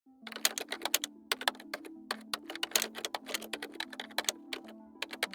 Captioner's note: keyboard clicking